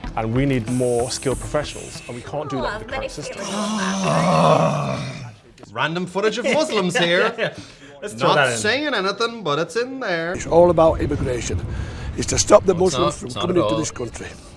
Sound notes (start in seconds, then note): 3.3 loud annoyed exhale; 7.3 laughs